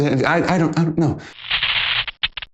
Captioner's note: static crackling